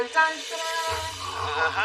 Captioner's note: gaspspsatter